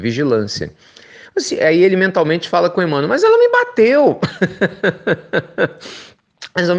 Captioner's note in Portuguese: risos